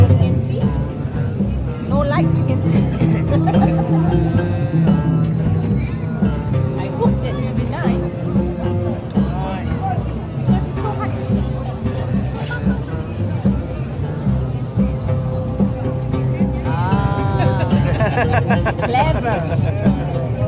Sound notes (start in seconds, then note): 2.7 laugh; 12.2 laugh; 16.7 laugh